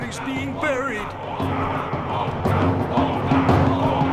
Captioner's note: chanting